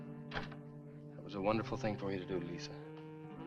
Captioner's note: door thuds